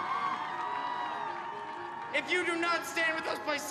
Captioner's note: crowd cheering